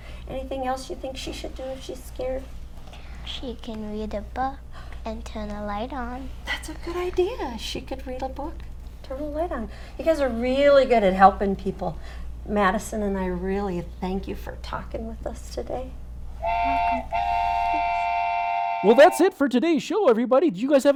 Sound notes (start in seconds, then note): 16.4 train toots